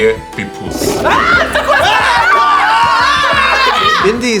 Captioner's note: monstrous roar